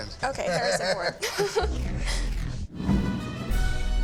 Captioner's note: laughs